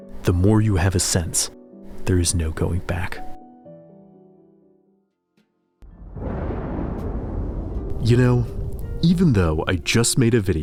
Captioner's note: thunder echoes